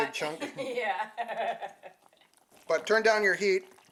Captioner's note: laughs